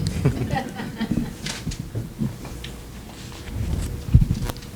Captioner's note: audience laughing